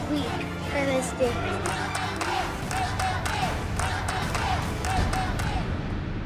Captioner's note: audience chanting "Let them dance!"